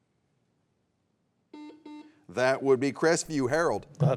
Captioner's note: buzzer beeps